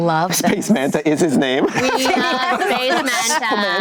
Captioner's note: group laughter